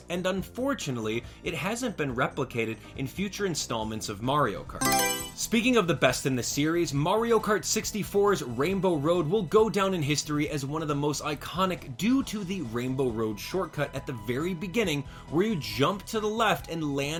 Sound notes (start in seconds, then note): 4.8 Mario Selection Sound